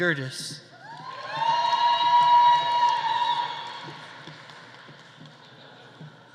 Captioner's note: audience cheering; audience applauding